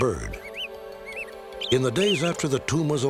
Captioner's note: bird chirping